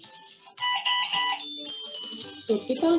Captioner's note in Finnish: piip, piip, piip